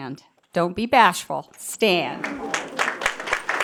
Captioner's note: applause